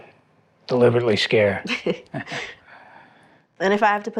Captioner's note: Kirsty and Hardy laugh